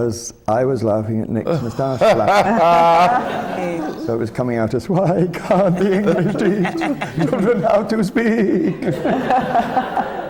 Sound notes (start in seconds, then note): 1.5 laughter; 9.6 laughter